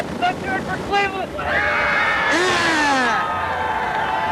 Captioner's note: cheers